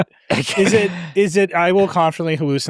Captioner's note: laughs